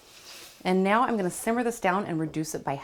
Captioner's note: liquid sloshes